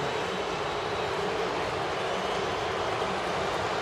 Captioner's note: booing